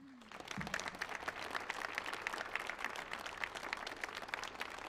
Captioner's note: audience applauds